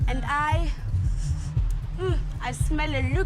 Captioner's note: sniffs